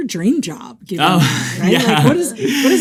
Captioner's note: laughs